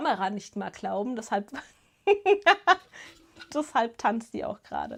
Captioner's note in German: Gelächter